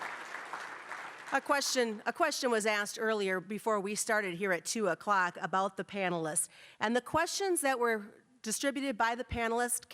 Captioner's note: applause